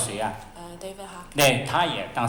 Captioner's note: Mandarin